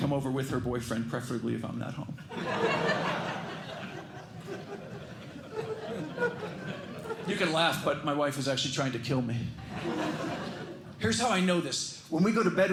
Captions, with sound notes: over with her boyfriend, preferably if I'm not home. [LAUGHTER] You can laugh, but my wife is actually trying to kill me. [LAUGHTER] Here's how I know this. When we go to bed,